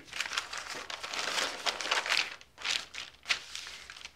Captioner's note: rustles